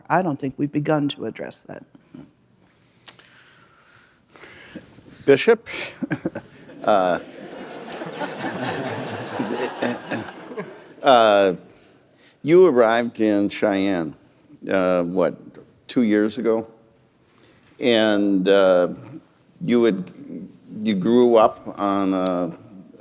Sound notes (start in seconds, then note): 6.0 laughter